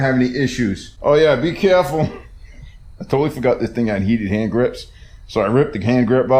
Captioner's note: laughing